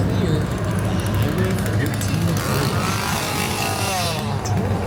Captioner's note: chainsaw revving